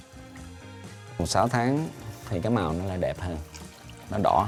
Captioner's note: speaking Vietnamese